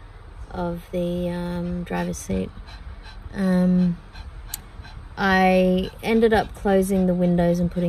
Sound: dog pants

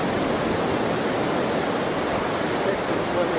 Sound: waves crashing

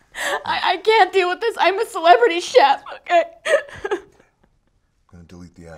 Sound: sobbing

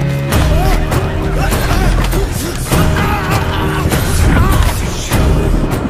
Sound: commotion

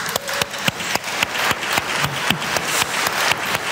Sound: applause

